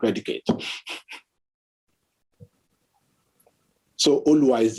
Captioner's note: scoffs